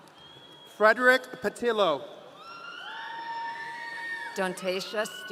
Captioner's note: audience cheering